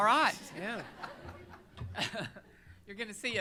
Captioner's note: laughter